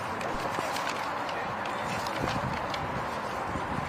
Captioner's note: none